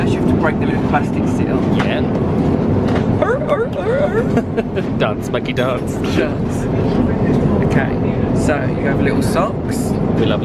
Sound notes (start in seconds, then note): 3.3 laughs; 3.5 mimics seal